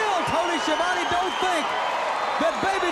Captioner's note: crowd cheering